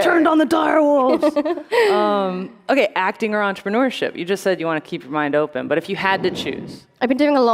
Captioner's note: laughter